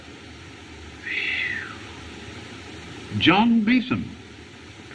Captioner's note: sighs